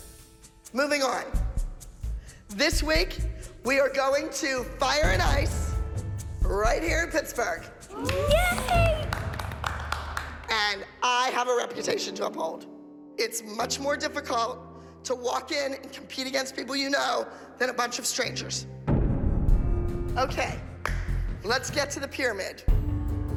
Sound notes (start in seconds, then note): 7.9 all applauding